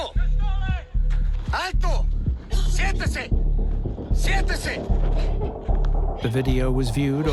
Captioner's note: in Spanish